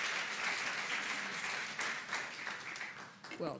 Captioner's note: applause